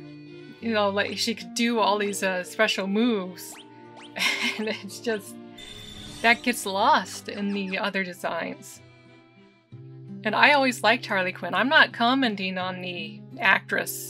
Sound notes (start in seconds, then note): 4.2 laughing